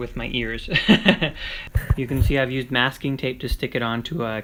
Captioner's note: laughs